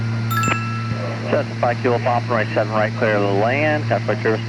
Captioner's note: bell alert